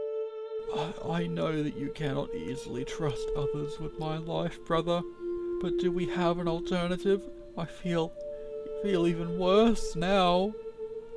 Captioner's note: sigh